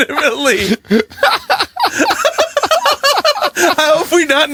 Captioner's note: uncontrolably laughing